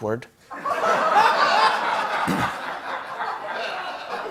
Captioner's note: laughter